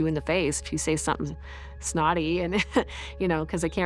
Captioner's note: scoffs